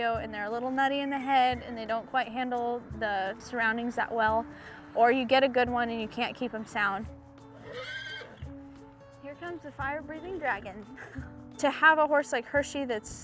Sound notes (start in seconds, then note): 7.5 neighs